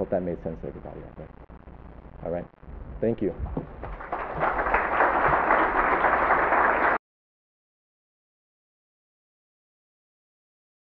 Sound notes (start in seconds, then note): 3.8 applause